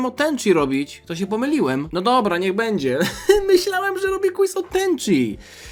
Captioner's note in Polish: śmiech